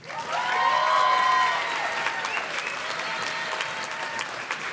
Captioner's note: audience cheers and claps